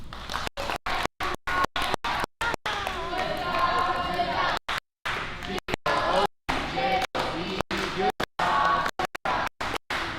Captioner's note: clapping and shouting